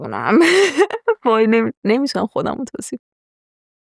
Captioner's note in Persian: خنده